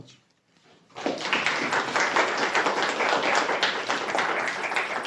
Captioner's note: applause